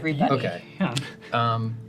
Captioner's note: laughs